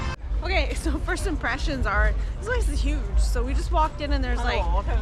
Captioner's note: laughs